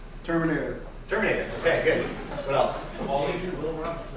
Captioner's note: laughter